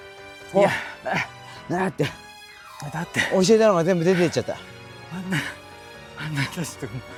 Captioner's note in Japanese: 息切れ